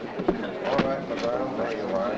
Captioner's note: crowd chattering